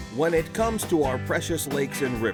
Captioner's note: voiceover